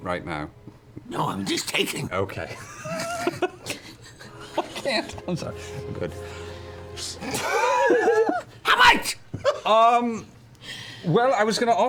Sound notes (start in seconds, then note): 2.5 laughs; 8.7 shouting